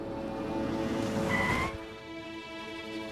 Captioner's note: Car brakes being applied